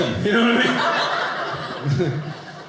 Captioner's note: audience laughing